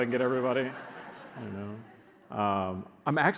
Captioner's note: audience laughs